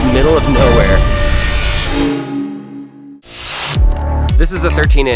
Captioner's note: electric sound